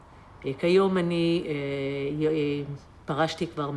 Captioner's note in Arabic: الصوت المنطوق باللغة العبرية